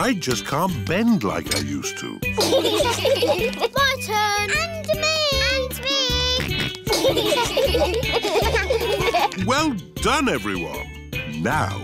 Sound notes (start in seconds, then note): 2.4 laughter; 6.4 george snorts; 6.8 laughter